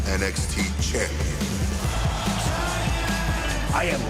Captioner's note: crowd cheering